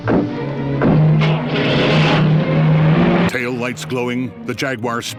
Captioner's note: engine revs